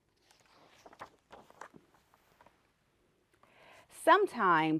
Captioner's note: page turning